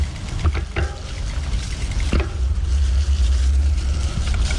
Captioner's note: gravels rumbling